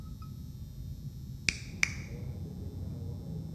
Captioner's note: fingers snap